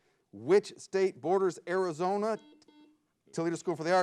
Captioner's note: buzzer beeps